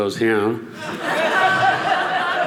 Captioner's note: audience laughing